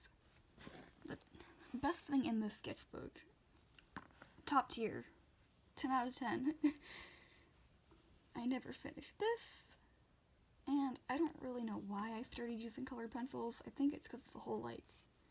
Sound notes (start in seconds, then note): 6.2 laughs